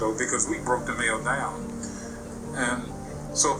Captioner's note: Morgan Freeman narrating in the background